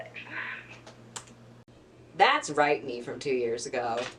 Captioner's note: click